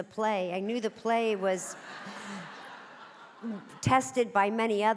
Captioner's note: audience laughing